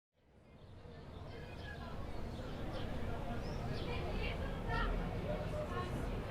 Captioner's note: indistinct chatter in the back